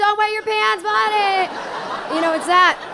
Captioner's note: audience laughing